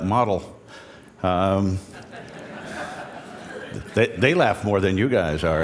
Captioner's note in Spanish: Risas